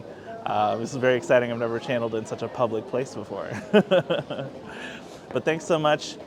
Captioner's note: laughs